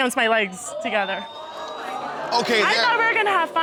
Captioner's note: audience exclaiming